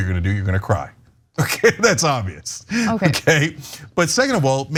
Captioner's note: laugh